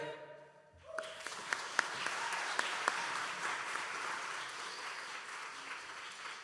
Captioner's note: audience cheering and applauding